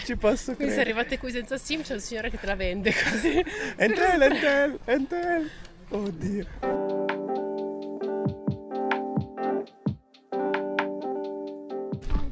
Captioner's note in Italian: risate